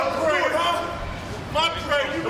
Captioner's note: people chattering